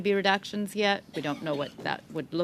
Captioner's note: speaking French